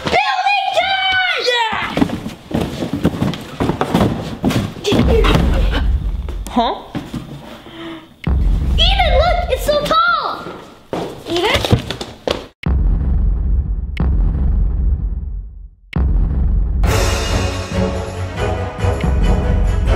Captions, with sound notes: - Building time! - Eden look it's so tall. Eden? (loud thumping) (intense music)